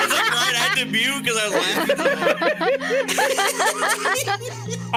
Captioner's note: all laughing